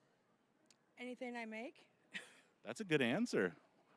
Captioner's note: laughing